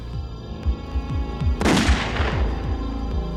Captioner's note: gunshot